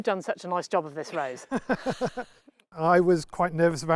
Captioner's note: laughing